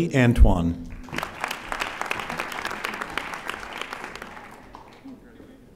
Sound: audience applauding

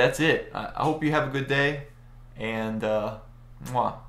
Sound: kisses

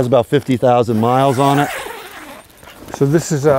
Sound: zipper scrapes

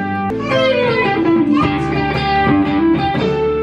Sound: kids talking

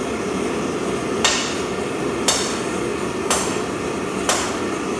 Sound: metal clanging

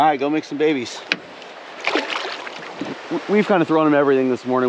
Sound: fish splashing

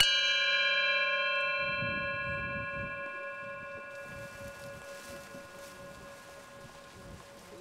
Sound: bowl chime

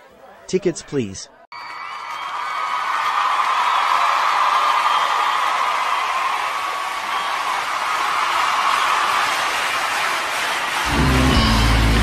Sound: crowd Cheering

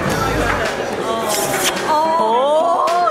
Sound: lips smooching

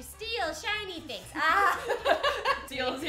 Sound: both laughing

